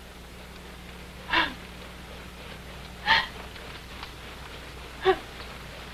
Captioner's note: crying